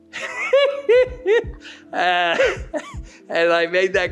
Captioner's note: laughs